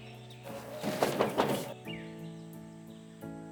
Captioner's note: knocking